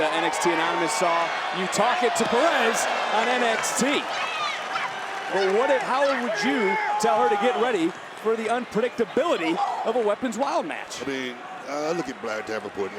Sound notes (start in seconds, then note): 3.7 Roxanne yelling; 3.7 crowd cheering